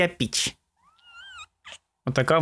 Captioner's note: meows